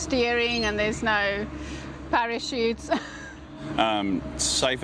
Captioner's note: laughs